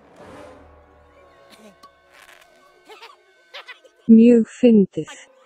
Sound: hlær

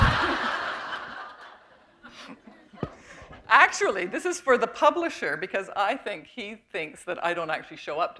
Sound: laughter

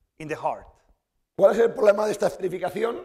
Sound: speaking spanish

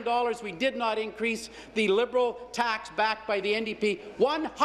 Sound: none

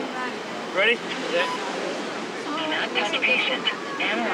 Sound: defibrillator beeps

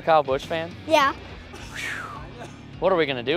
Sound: sighs

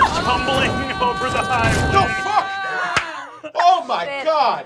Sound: laughing

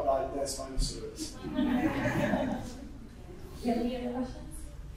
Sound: audience giggling

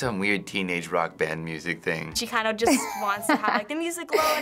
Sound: laughs

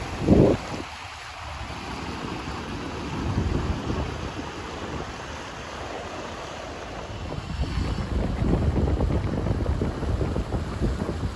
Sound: water noise

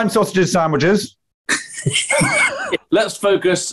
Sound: sniggering

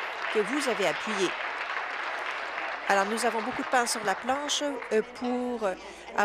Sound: applause

